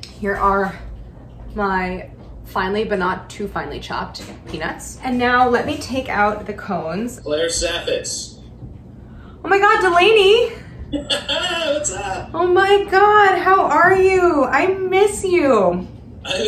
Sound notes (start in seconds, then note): 10.9 softly laughing